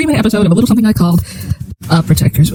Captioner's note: inhale